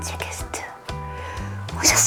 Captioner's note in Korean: 들숨